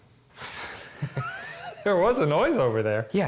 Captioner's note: laughing